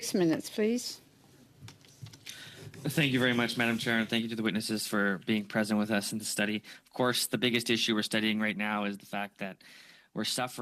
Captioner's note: speaking French